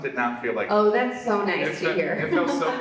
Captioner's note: laughs